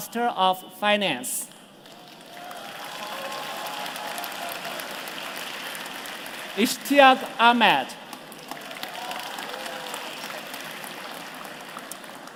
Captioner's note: applause